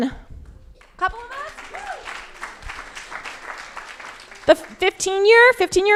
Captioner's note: crowd applauding